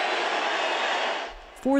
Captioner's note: cheering